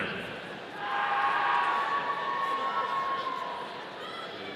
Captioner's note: audience cheering